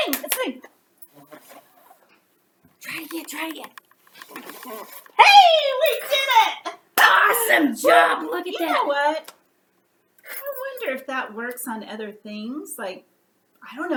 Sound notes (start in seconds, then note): 4.8 blows